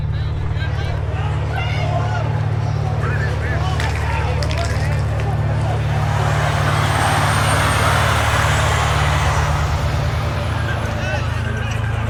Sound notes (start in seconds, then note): 0.1 crowd shouting; 6.8 bus engine revs